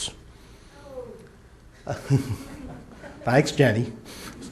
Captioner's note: laughs